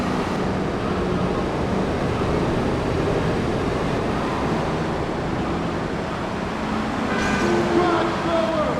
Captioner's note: explosion